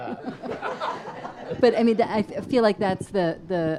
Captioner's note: audience laughs